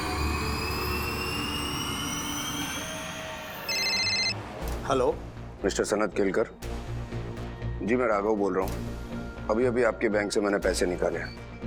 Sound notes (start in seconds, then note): 3.6 mobile phone ringing